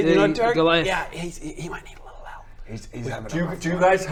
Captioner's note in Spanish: susurrando